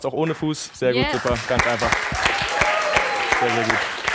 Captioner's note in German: Applaus